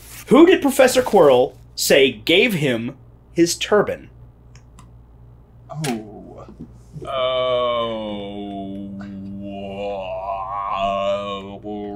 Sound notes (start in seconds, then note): 5.8 making thinking noises